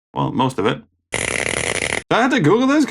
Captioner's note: static crackling